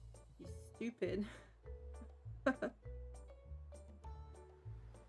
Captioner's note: ha ha ha